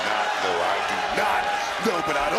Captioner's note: crowd cheers